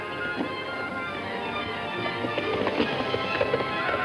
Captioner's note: hooves clopping